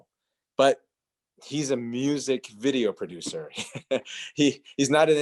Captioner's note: chuckling